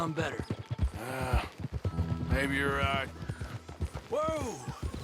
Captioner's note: sighs